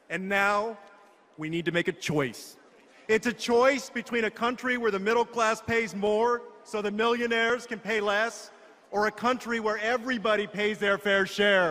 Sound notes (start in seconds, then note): none